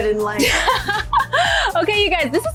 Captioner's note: laughing